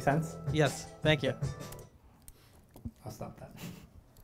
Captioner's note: voiceover